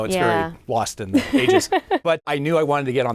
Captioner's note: laughing